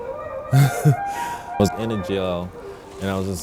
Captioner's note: laughs